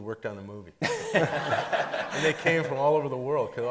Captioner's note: everybody laughing